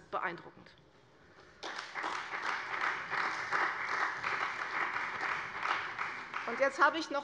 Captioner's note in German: Beifall bei der CDU und dem BÜNDNIS 90/DIE GRÜNEN